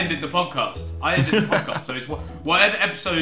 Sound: laughing

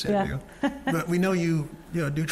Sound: chuckles

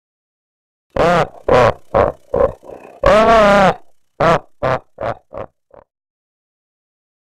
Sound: laughs

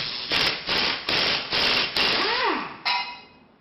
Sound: torch sizzling; driver tool roaring; metal clanks

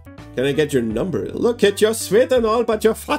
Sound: in silly german accent

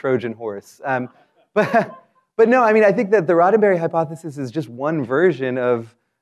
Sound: laugh

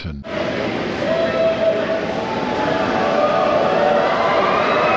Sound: crowd cheer

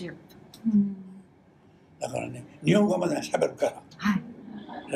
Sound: foreign language

